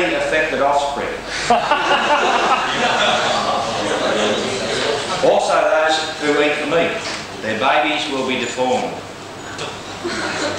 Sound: laughter

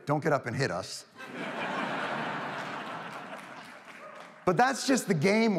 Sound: audience laughs; attendee cheers

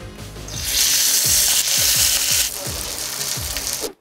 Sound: soft upbeat electronic music; steak sizzling

